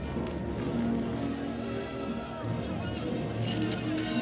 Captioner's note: chattering